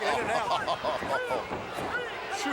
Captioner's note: Ted laughs